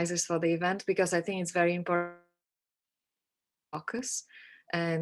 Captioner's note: audio cuts out